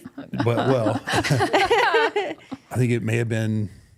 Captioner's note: all chuckling